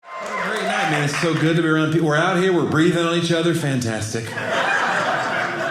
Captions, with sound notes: (audience cheering) What a great night. I mean, it's so good to be around people. We're out here. We're breathing on each other. Fantastic. (audience laughing)